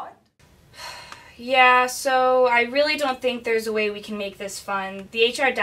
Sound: sigh

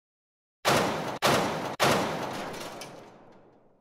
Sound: loud banging

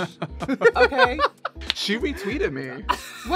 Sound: laughing

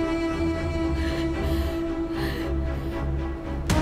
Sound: panting

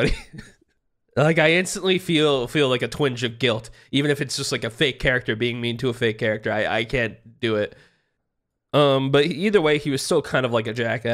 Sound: laughs

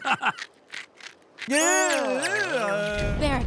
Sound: groaning

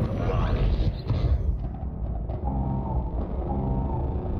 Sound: hyperspace travel noises

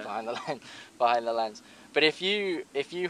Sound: laughs

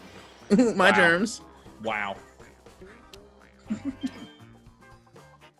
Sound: laugh

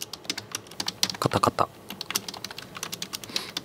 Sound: typing noises

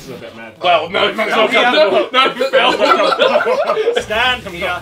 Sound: group laughing

